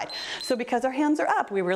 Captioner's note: timer beeps